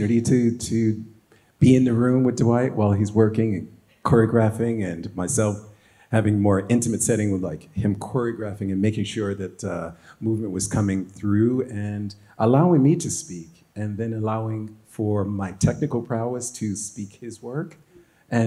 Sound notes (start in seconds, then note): none